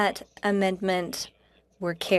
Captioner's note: speaking French